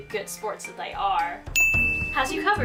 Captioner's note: ding!